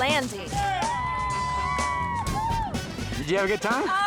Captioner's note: people cheering